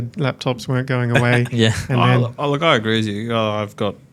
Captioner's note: laughs